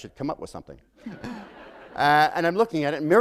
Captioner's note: laughter